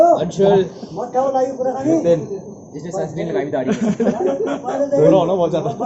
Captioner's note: laughs